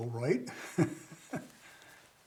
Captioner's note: chuckles